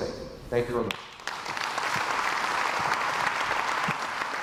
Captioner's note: crowd applauds